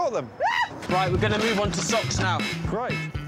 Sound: Sarah shrieks

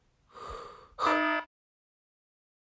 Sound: alarm

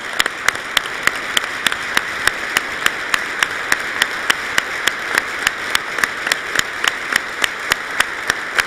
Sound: applause

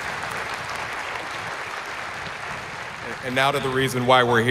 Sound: applause

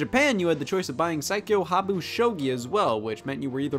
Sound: reads title in Japanese

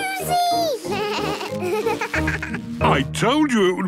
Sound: bleating, laughing

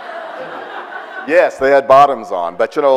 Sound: audience laughs

